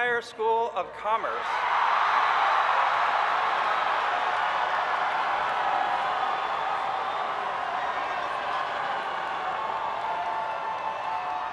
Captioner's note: cheering